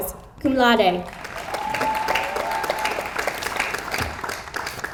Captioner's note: audience applauds